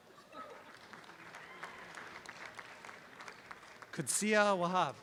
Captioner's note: audience applause